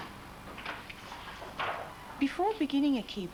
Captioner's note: sound of typing